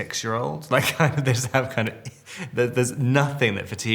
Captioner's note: Robert laughing